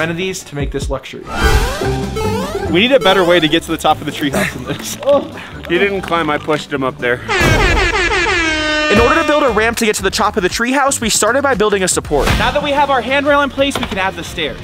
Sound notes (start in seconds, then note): 7.2 horn blasting